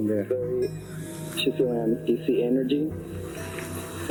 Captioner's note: recording playback